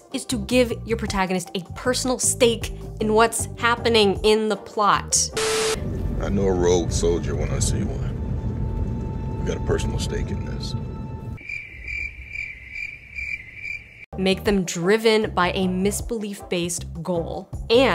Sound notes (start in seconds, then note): 5.4 static crackling; 11.3 crickets chirping